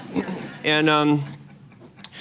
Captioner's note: laughter